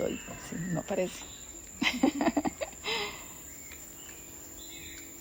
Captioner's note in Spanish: risas